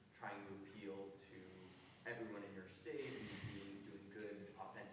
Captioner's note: voice muffled